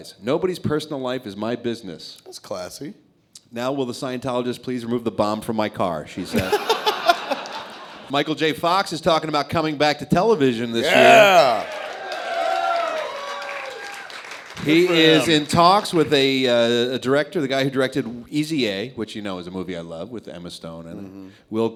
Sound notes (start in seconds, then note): 10.8 cheering